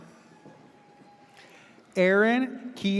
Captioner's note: audience cheers